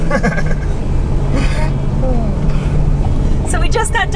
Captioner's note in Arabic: ضحك